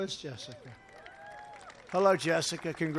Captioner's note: applause